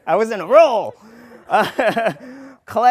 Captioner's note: laughter